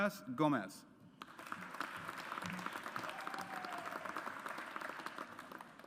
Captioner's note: audience applauds